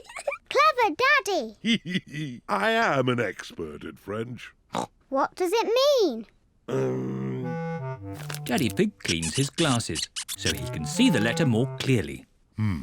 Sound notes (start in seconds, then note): 0.0 giggles; 1.6 giggles; 5.0 snorts